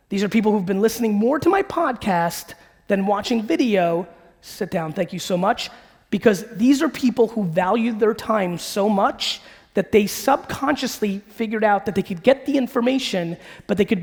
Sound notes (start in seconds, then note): none